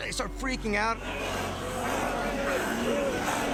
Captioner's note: growling